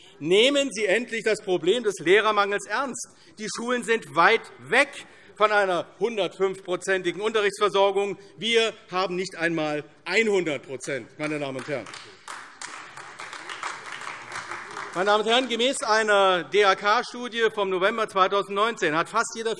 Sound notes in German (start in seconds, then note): 11.2 Beifall AfD